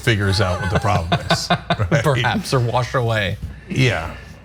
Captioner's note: laugh